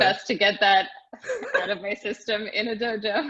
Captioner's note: laughing